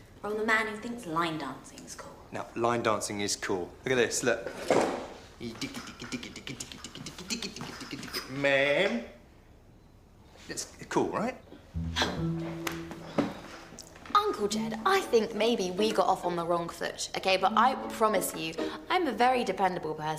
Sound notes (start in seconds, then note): 11.8 alice scoffs